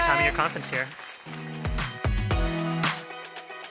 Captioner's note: audience applauding; upbeat music